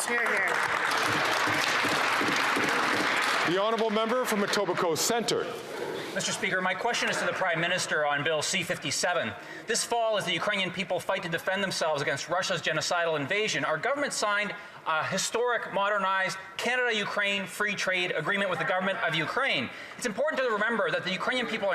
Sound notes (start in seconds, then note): 2.7 some Applause